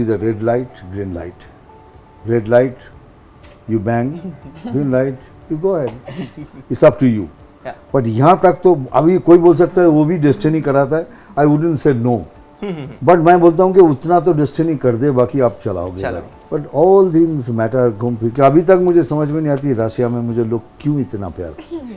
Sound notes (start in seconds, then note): 6.0 laughs